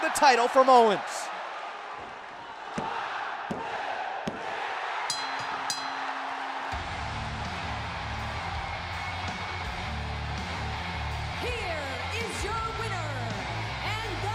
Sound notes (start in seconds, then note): 5.1 bell